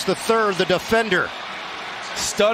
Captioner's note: cheers and applause